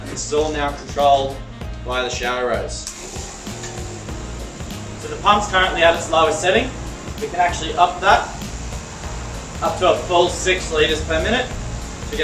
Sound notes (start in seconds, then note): 3.3 pump whirring